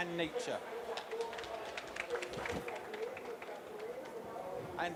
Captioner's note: applause